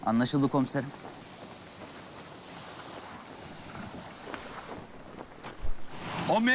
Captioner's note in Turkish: Dalga sesleri